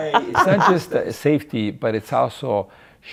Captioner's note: laughing